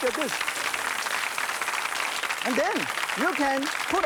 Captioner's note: applause